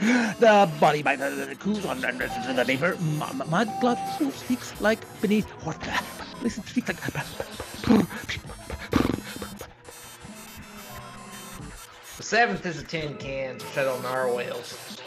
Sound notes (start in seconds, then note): 5.8 blows with lips; 11.6 sighs